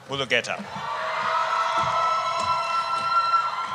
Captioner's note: cheering